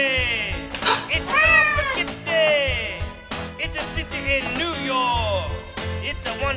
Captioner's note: cat meows